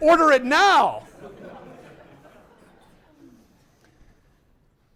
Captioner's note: laughter